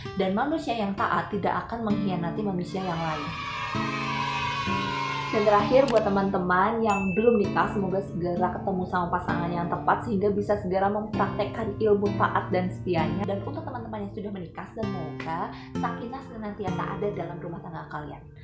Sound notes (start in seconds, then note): 2.7 kids cheering